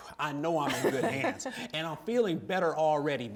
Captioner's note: laughter